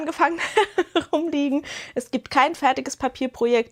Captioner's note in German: gelächter